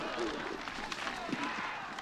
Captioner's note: all grunting